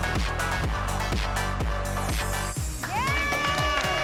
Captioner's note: cheering